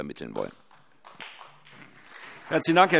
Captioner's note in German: Vereinzelter Beifall CDU und BÜNDNIS 90/DIE GRÜNEN